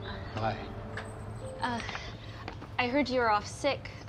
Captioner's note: birds chirping